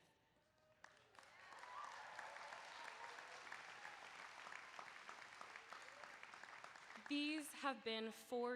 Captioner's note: applause